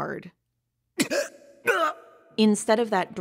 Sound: guh! Ungh!

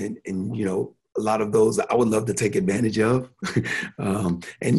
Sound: chuckles

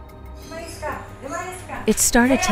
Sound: arguing in foreign language

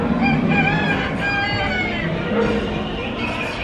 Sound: rooster crows

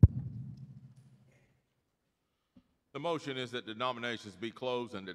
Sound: mic thudding

